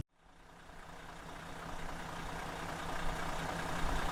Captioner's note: engine idling